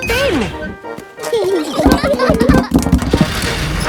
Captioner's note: children giggling